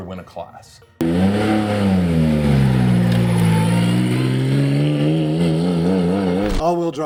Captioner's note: engine Revving